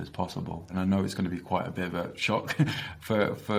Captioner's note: laughs